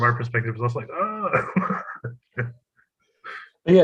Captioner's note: laugh